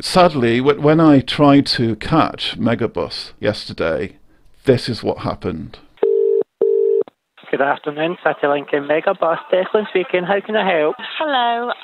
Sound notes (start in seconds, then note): 6.0 phone ringing